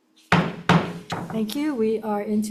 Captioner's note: gavel banging